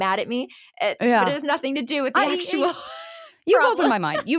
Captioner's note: laughs